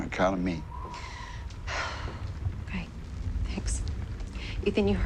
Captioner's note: sighs